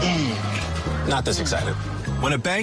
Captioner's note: grunting